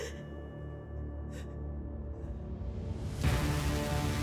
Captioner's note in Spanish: Sollozos